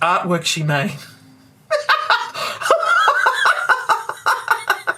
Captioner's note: raucous laughter